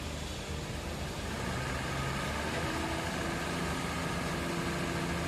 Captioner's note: forklift whirring